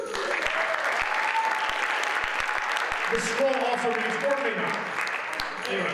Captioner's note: audience applauds